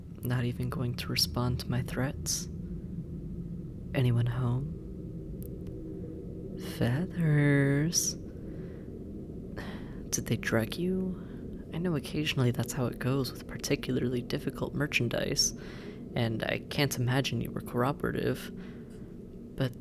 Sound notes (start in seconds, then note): 7.3 singsong; 10.1 irritated